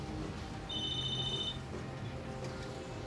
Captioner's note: cell phone ringing